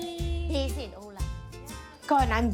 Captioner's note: foreign language